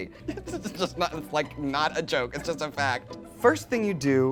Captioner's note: laughs